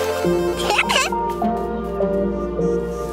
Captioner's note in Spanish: risitas